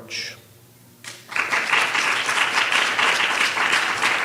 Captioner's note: applause